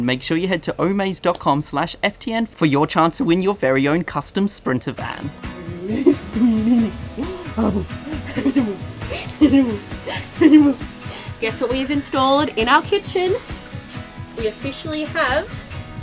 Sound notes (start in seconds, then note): 5.1 playful sounds